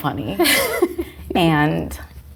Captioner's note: laughing